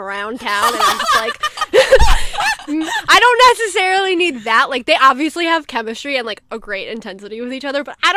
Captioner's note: hosts laugh